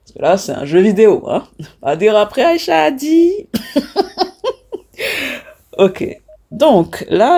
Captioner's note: laughs